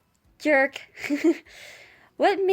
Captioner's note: laugh